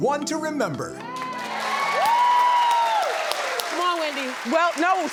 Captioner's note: audience cheers